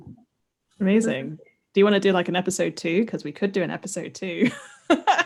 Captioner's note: laughs